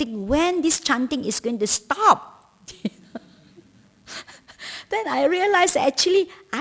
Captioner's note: laughter